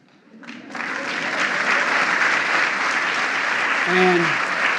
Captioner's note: applause